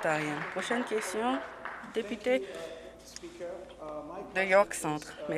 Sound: applause

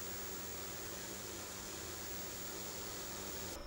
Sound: static hissing

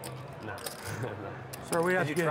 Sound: laughs

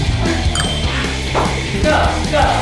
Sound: eaters making pained noises; score dings

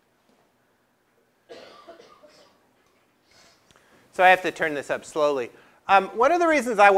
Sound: cough

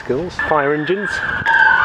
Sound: sirens

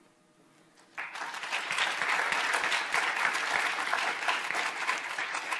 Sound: audience applauding

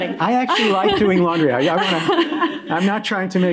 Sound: audience laughing

